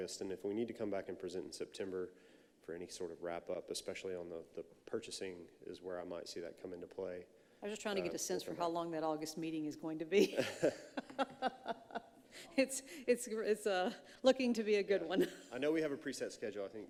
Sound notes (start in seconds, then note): 10.2 laughing